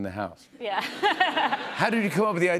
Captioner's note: laughter